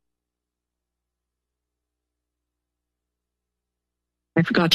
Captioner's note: silence